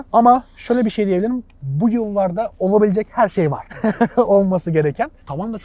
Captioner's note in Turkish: kahkaha